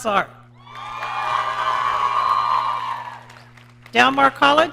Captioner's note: audience cheering